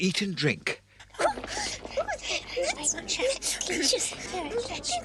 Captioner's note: carol singers chatter